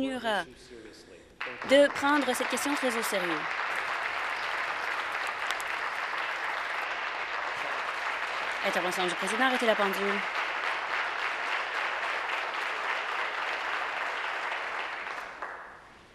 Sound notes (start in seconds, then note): 4.9 applause